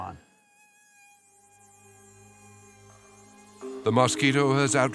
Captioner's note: mosquitoes buzzing